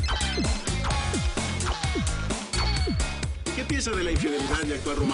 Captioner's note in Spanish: Suenan celulares